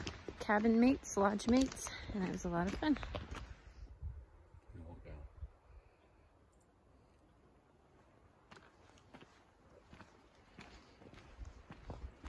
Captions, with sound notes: cabin mates--lodge mates--and it was a lot of fun *walking on wooden steps*